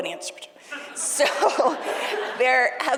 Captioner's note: all laughing